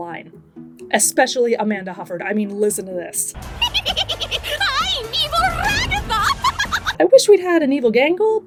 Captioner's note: psycho laugh